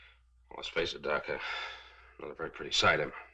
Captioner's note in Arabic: تنهد